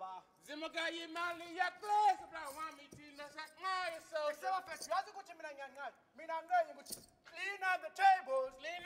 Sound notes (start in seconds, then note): 0.1 speaking language other than English